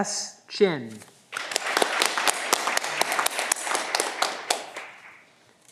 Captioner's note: audience clapping